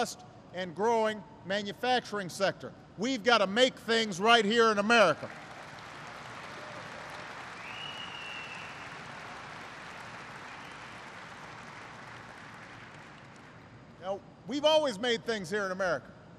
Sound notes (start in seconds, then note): 8.8 applause